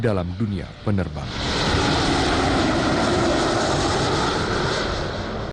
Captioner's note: engine roaring